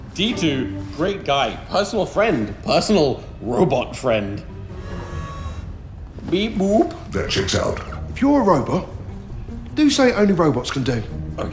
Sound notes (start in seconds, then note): none